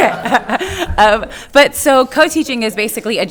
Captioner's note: crowd laughing